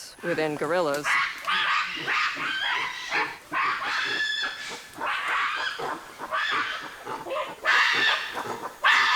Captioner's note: gorillas screeching